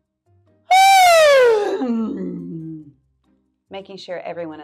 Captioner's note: yawns loudly